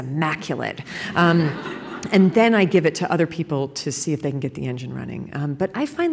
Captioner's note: laughter